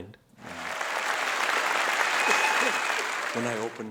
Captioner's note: audience clapping